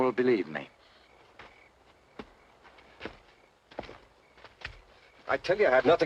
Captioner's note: crickets chirping